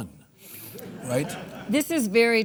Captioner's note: audience laughs